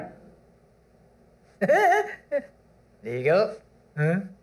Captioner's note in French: Rire niais